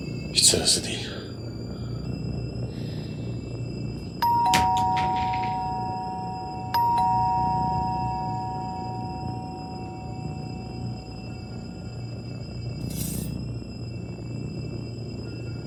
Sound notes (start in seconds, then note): 4.2 doorbell rings